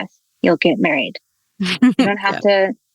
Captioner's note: laughs